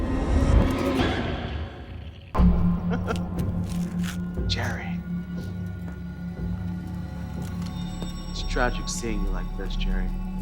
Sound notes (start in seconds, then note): 0.2 dramatic music; 2.8 laughs